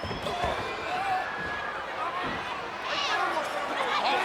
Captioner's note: crowd yelling